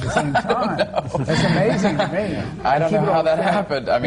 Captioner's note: laughter